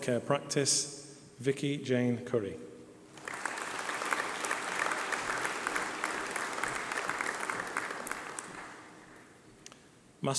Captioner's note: applause